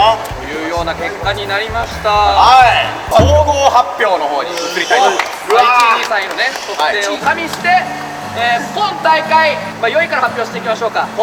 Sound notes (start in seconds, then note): 5.4 groans